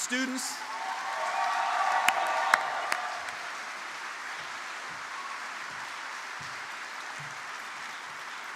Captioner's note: applause